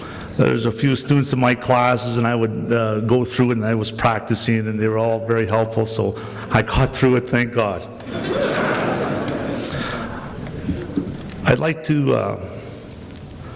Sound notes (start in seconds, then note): 8.0 crowd laughs again